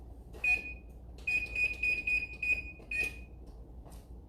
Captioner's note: oven beeping